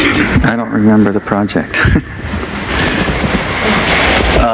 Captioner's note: laughs